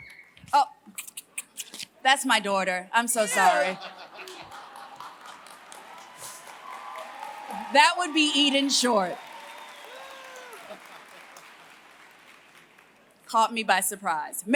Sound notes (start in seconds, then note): 3.4 laughter; 4.2 applause